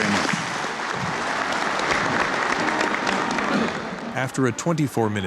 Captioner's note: applause